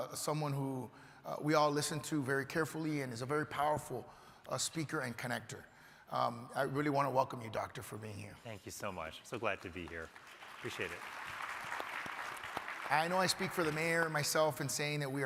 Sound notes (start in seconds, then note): 12.2 crowd applauding